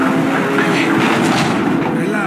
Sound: boxes falling

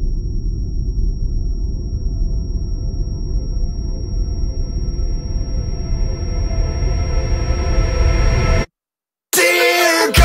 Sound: high-pitched tone

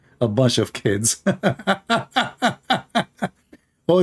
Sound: Ketawa

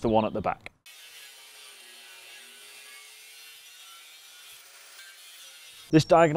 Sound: grinding

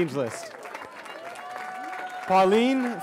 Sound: cheering

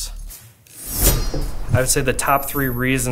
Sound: blade slicing

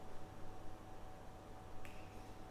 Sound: click

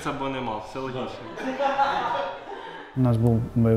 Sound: laughter

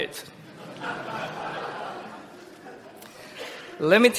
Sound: laughter

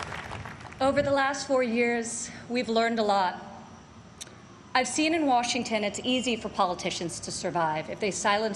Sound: applause

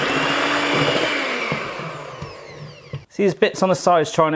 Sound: mixer whirs

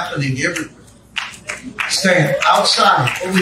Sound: congregation clapping

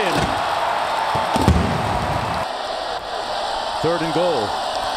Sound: crowd cheering

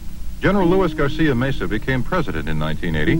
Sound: voiceover

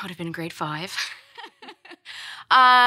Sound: laughs

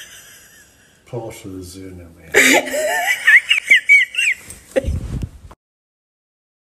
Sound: laughs

